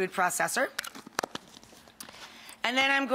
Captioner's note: lid clicking